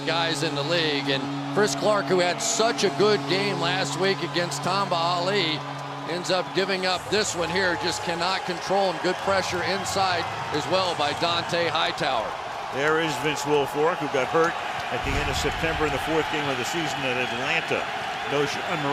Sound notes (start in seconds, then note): 12.5 cheering